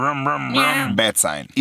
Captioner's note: car humming; meow